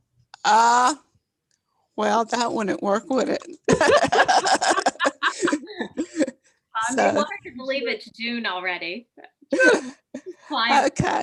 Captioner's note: laughter